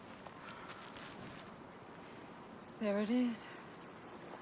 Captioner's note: thunder rumbles